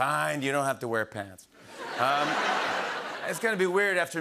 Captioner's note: laughter